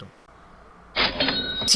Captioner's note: cash register sound